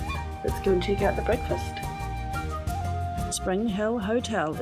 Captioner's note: water running